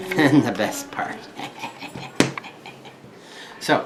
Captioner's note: laughs